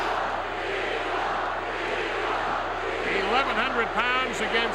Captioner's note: crowd chanting